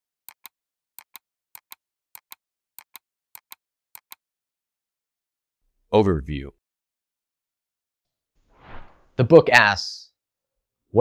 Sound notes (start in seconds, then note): 1.2 beat